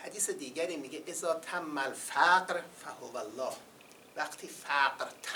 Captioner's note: quoting Arabic